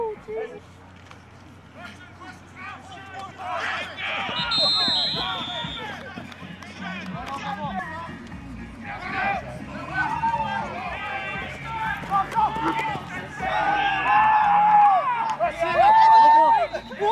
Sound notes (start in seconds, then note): 9.8 cheering